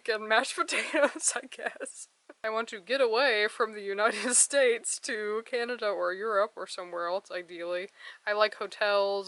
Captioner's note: laugh